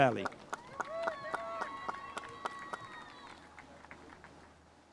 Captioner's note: spectators applauding